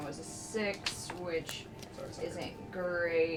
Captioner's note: none